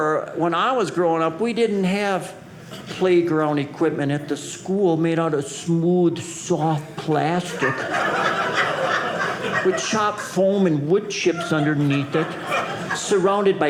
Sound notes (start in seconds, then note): 7.4 audience laughing